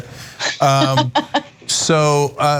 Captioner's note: laugh